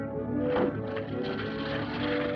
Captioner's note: door thuds